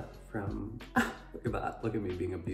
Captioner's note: scoffs